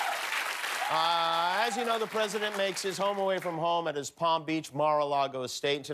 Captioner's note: cheers and applause